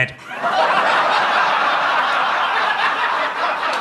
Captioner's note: audience laughs